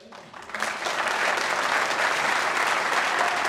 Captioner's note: applause